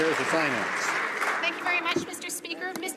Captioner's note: some Applause